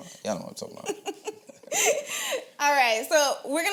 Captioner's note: laughs